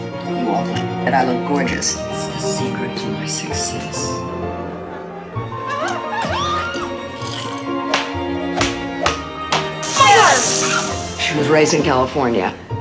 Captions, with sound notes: You all do. And I look gorgeous. It's a secret to my success. (screaming) She was raised in California.